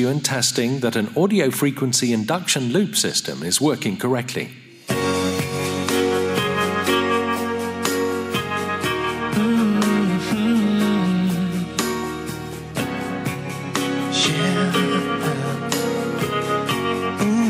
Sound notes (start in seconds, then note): 2.1 recording playing loud